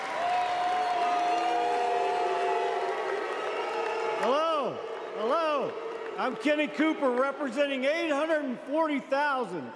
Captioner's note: applause